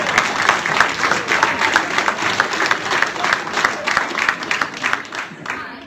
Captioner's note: applause